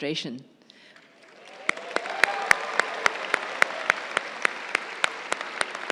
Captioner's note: crowd cheering and applauding